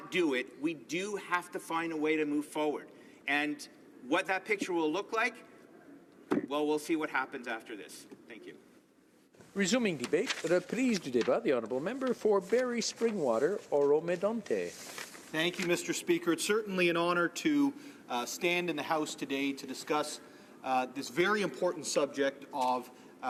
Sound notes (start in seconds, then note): 14.3 speaking French